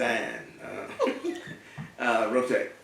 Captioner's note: laugh